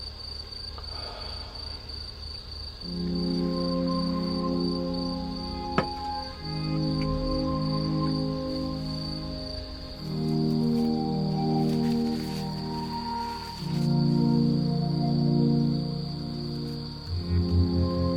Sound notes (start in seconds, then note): 0.8 breathes